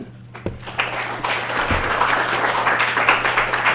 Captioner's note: clapping